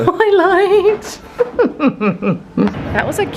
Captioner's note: laughing